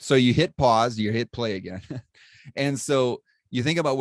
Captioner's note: laughter